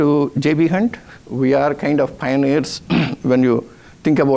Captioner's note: scoffs